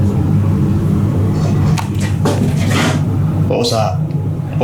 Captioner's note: scraping noise